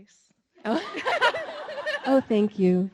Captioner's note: all laughing